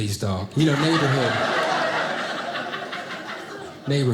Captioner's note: audience laughing